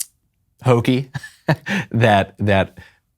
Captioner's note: laughs